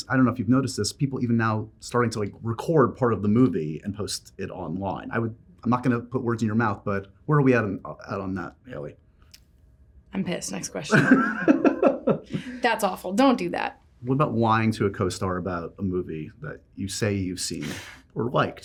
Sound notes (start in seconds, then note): 10.9 laughs